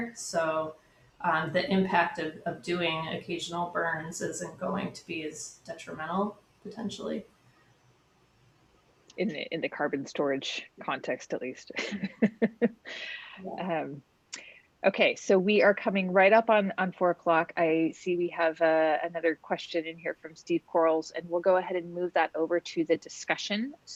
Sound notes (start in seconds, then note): 11.8 chuckles